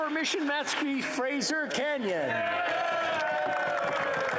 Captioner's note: applause